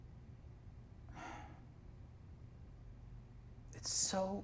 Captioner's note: Brennan sighs